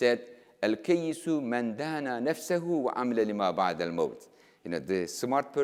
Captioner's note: speaking in foreign language